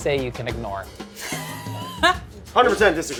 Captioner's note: laughing